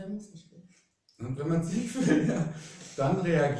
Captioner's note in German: lachen